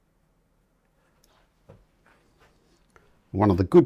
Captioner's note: silence